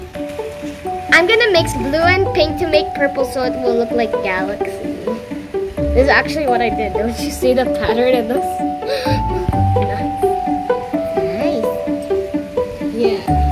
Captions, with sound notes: I'm going to mix blue and pink to make purple so it will look like a galaxy. This is actually what I did. Don't you see the pattern it looks (sigh) Yes.